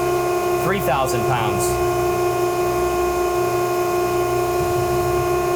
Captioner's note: machine whirring